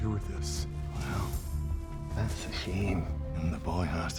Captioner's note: scottish accent